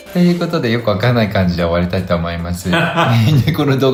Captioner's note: laughs